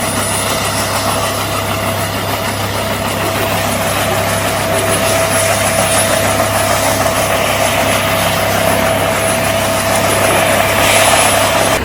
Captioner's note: helicopter whirring